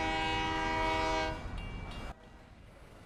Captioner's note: horn blowing; crossing bells ding